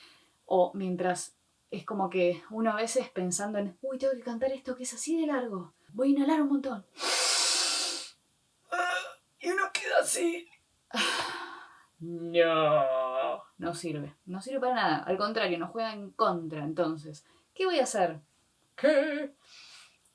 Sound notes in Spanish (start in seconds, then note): 6.9 inhalación prolongada y exagerada; 10.5 voz ahogada